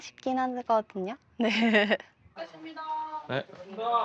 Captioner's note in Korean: 웃음